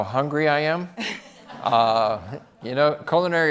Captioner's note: audience laughs